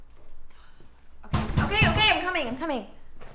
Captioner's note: door bangs